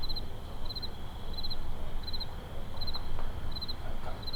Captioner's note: crickets chirping